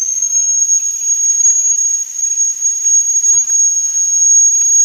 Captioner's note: long, high pitched whistle